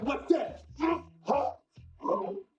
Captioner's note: grunting